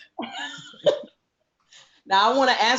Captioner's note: laughs